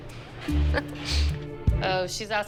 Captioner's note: laughs